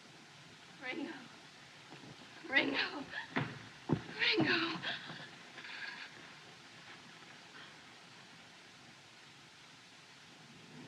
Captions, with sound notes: Ringo. Ringo. [Gasping] Ringo.